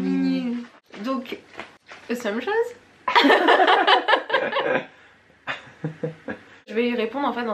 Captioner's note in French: rires